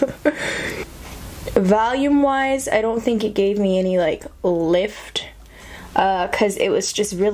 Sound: laughs

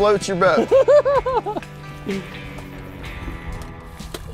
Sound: laughing

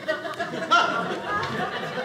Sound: audience laughing

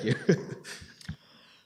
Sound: laughter

